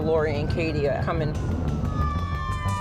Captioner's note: ambulance sirens